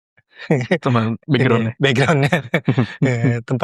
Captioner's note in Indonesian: tertawa